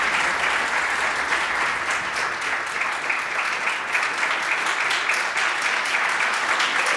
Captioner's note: clapping